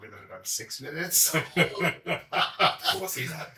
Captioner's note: all chuckle